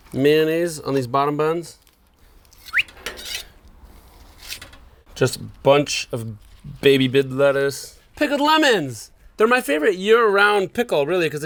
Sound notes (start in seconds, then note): 2.6 whistles